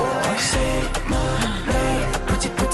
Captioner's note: gasp